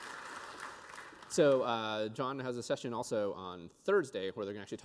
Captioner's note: applause